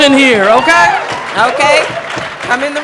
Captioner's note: audience cheering